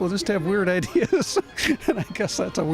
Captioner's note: laughs